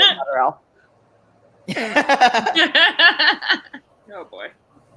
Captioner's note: laugh